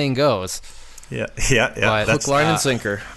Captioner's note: laughs